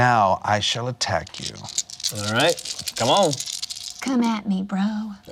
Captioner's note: dice rattling